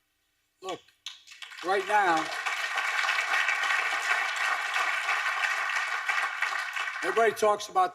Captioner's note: applause; applause